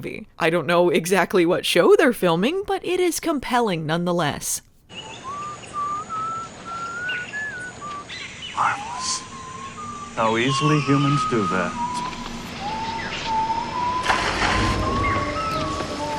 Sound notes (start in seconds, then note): 5.0 creepy whistling